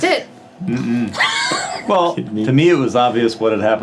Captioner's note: laughing